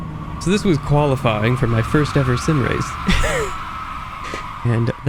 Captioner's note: laughs